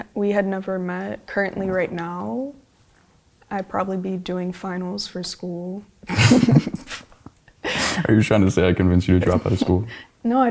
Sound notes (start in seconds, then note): 6.0 both laughing